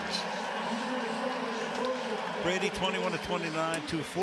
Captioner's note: pa announcement